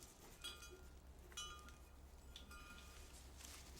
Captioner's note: vase clinking